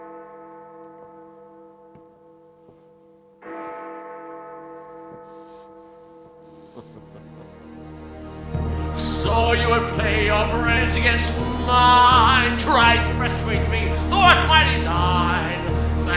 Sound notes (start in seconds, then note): 6.7 Dracula laughs; 8.9 singing